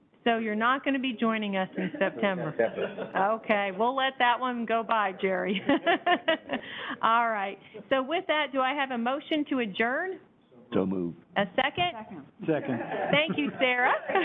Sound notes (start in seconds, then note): 1.8 everyone laughing; 5.4 laughs